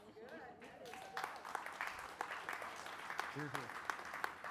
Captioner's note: audience applauding